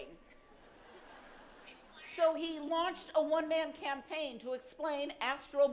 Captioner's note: laughter